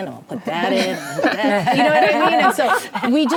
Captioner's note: ladies laughing